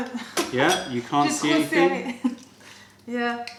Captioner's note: french